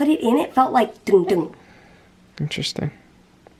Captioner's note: imitiates noise